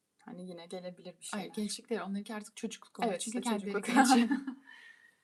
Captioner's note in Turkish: kahkaha